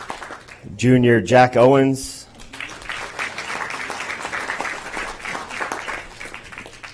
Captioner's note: applause